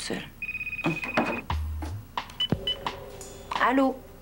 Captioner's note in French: Sonnerie de téléphone